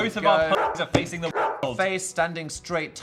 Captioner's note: dog barks